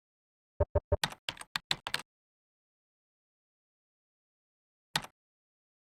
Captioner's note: typing sounds